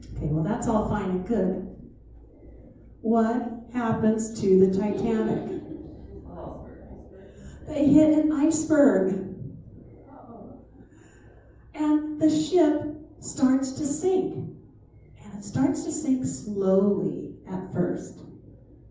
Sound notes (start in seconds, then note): 4.7 laughter